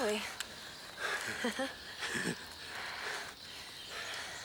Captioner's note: both laughing